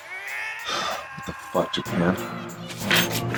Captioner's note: sighs